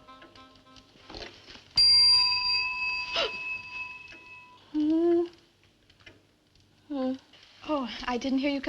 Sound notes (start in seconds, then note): 1.8 bell rings; 2.1 gasp